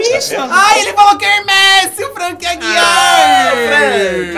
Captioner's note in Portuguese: grita